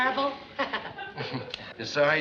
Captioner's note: chuckles